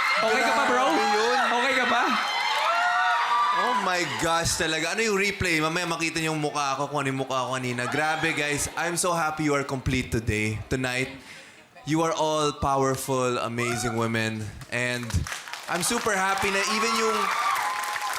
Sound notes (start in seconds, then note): 14.8 scattered applause